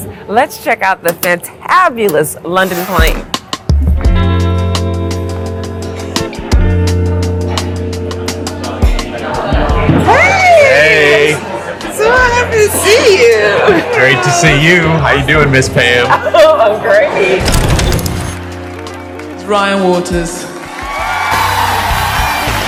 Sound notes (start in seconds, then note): 17.7 film crinkles; 20.9 applause